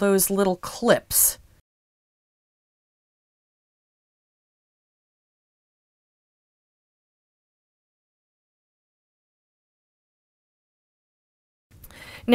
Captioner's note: no Sound Present